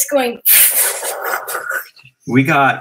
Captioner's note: whooshing